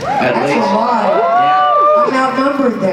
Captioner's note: cheers